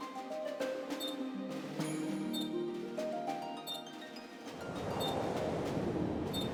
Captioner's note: waves crashing